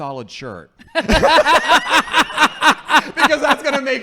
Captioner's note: laughing